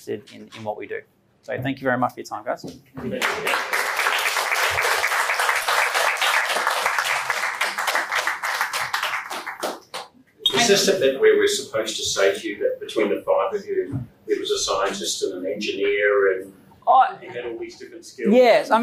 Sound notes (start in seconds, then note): 3.1 attendees applaud